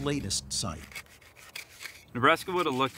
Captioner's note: metal scratching